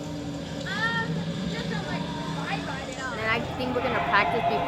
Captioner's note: voiceover